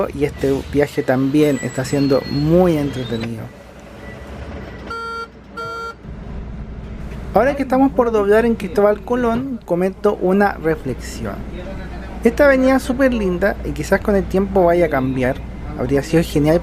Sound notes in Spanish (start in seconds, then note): 4.5 sonido de pago con la tarjeta Bip